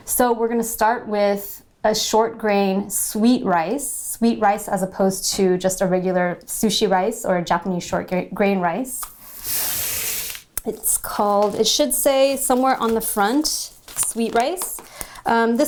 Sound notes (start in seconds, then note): none